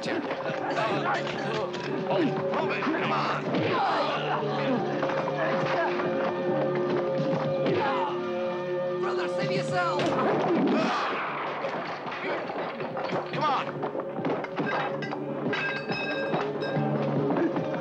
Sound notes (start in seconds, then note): 0.0 men scuffling; 10.0 gun blasts; 14.3 debris clattering